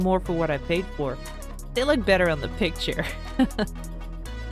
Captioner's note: laugh